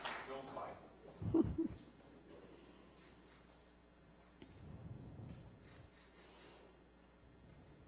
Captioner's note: applause